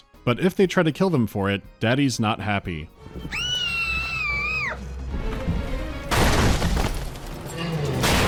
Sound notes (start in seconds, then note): 3.3 Little Sister shrieks; 6.1 thwack